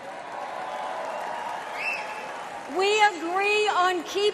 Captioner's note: crowd cheers